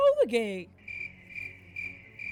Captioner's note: crickets chirping